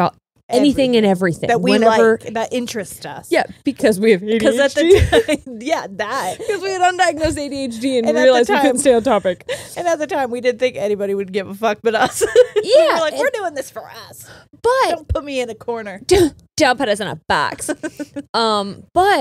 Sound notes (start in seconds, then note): 12.1 laughs; 17.5 laughs